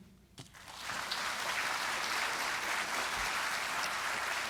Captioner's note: audience applauding